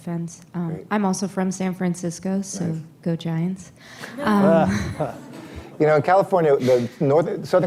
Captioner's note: laughter